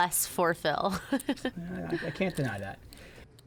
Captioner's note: laughs